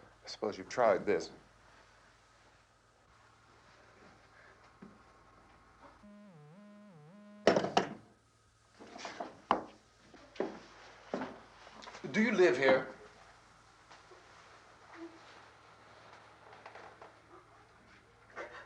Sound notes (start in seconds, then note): 5.9 line buzzing